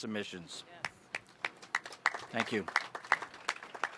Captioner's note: applause